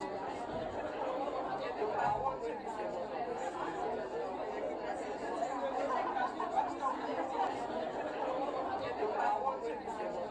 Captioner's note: indistinct conversations